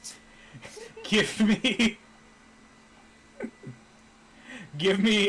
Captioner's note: trails off to laugh at his own secret joke